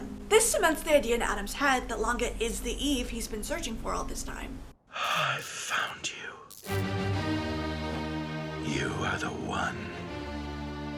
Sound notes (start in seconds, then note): 5.1 breathlessly